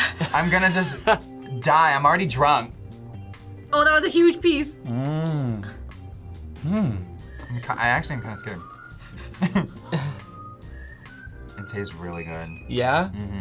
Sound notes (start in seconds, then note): 0.0 both laugh; 9.0 both laugh